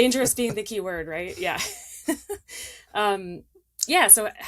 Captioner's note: laughs